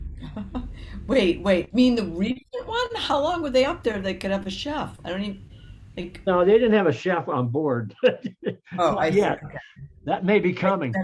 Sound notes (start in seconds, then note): 0.4 laughs; 8.0 laughs